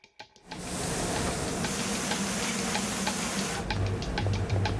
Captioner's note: food sizzles